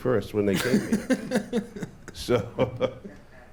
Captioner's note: laughter